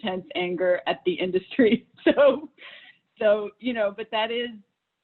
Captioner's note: laughs